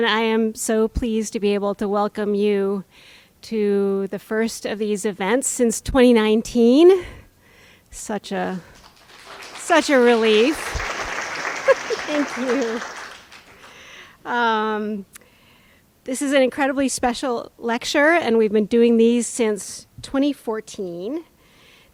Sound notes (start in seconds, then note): 11.1 audience applauds